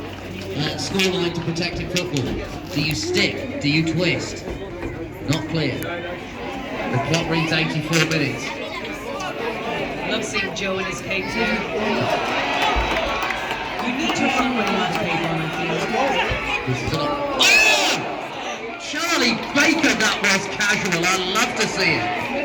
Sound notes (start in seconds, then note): 12.0 sudden rising cheers